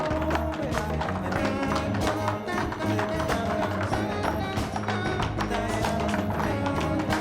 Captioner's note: light jazz music; rhythmic tapping